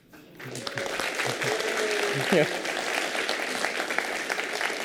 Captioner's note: applause